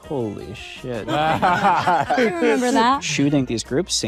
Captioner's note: panelists laughing